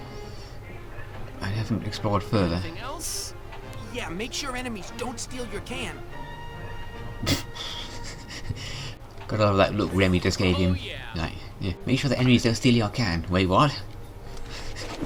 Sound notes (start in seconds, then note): 7.2 stifled laughter